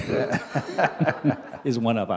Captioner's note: laughter